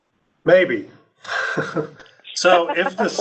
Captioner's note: laughs